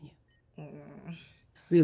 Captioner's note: Izzy groans